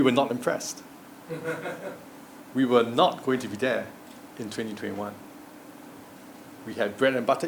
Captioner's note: laugh